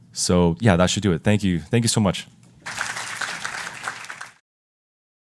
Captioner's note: applause